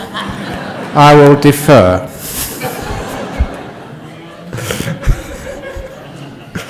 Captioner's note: laughter